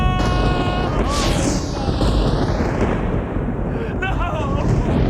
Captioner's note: thunder crashing